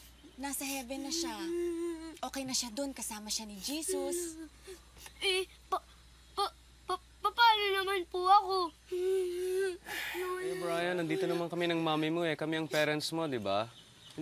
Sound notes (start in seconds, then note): 5.1 stammering; 8.9 crying